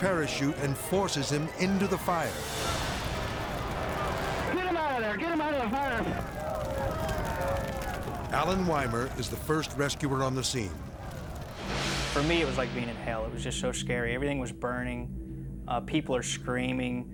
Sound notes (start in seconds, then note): 6.9 crew shouting; 6.9 fire crackling